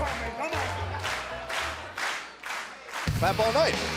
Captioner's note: clapping